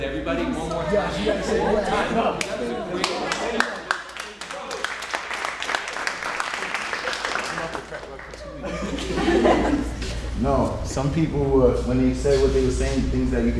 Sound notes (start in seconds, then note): 3.0 applause; 8.1 audience laughing